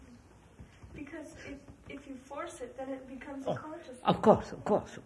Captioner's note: laughs